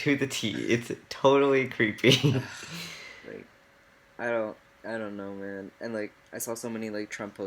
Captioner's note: laughs